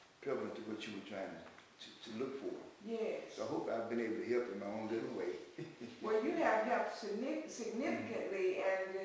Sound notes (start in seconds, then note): 5.5 laughs